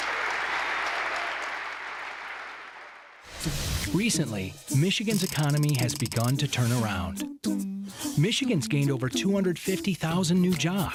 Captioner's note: applause